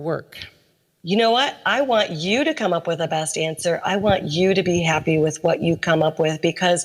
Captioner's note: audio recording plays